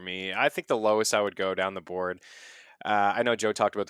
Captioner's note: inhales